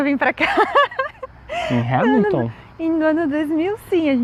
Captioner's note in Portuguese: risos